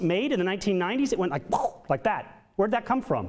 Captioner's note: imitates whooshing